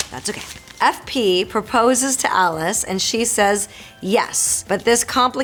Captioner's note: Marisol reading fan letter aloud